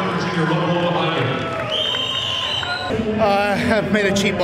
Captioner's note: crowd cheering